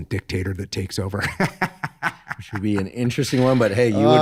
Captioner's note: laughs